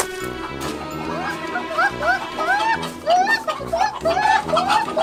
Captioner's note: chicken cuckoos